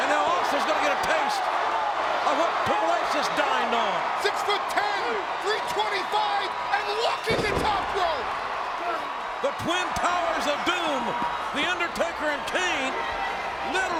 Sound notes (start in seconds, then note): 8.0 audience cheers